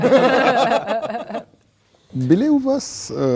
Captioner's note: laugh